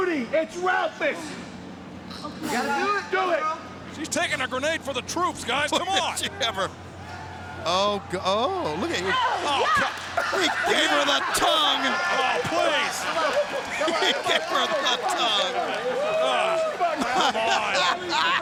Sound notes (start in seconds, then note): 15.2 people laughing